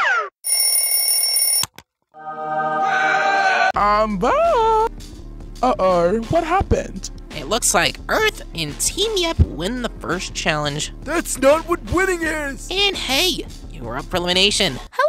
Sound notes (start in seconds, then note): 0.4 clock Ringing; 2.8 screaming